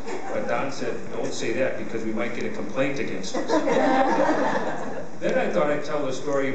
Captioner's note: laughter